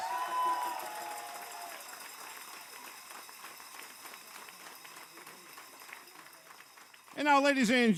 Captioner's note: cheers and applause